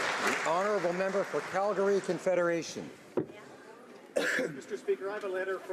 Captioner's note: applause